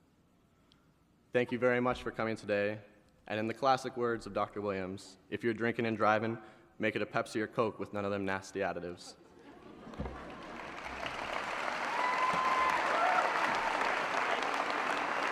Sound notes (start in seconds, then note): 9.3 laughter; 10.0 applause